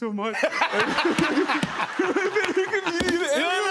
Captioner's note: laughter